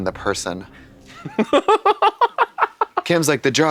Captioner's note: Kim chortles